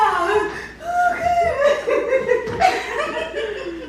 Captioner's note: laughter